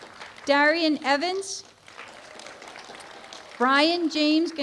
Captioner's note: applause